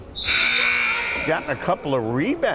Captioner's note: timer buzzes